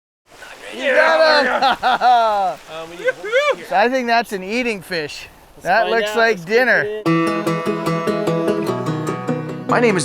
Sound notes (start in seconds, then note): 0.4 laughs; 7.0 upbeat guitar music